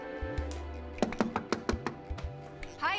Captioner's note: knocking